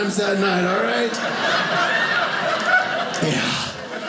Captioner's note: audience laughing